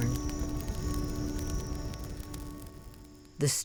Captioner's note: flames crackling